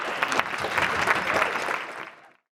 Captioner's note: audience clapping